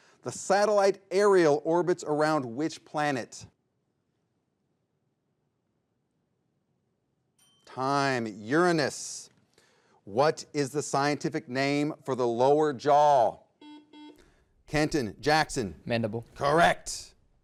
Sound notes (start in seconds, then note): 7.8 bell dings; 13.6 buzzer beeps